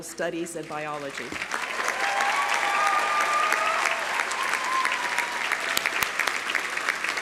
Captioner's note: audience applauding; audience cheering